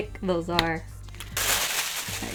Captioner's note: paper rustles